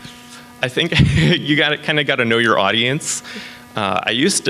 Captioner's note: laughs